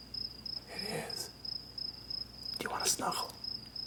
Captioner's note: whispering